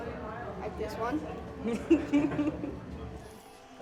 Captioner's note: laughing